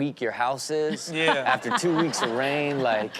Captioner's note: audience laughs